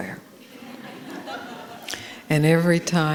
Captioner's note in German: Gelächter